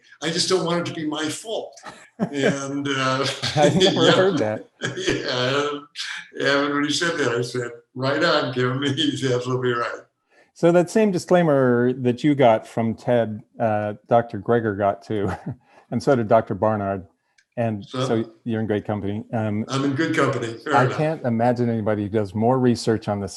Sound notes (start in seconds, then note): 1.8 both laughing; 5.3 laughing; 15.0 chuckling